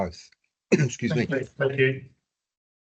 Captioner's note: he coughs